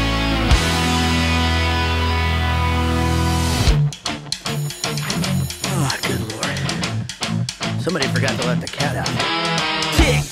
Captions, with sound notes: (bell rings) - Ah, Good lord. Somebody forgot to let the cat out.